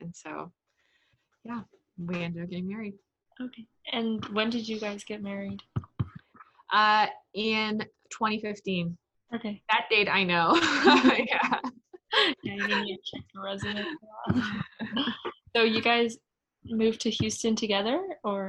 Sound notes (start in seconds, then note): 10.6 laughs